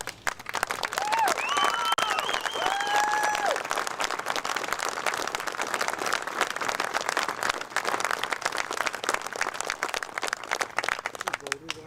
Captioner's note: applause